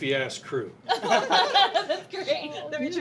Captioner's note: laughter